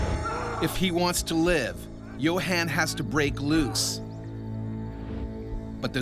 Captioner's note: voiceover